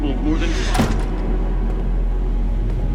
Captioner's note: slam